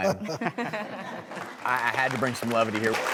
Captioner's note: laughing; clapping